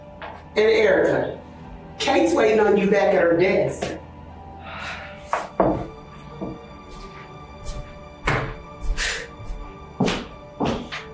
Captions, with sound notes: And Erica, Kate's waiting on you back at her desk. (footsteps) (Cat scoffs)